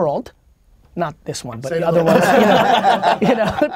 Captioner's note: group laughter